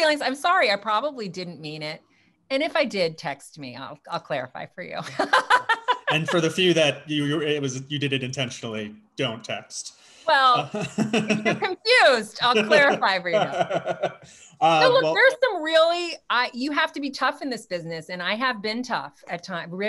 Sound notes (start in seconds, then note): 5.1 laughs; 12.4 laughs